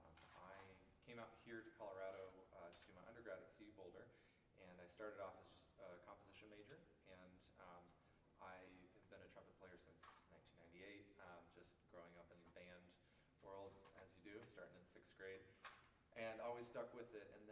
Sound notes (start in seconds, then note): none